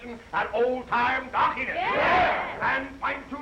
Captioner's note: all chattering